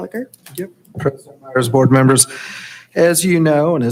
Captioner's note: hushed speaking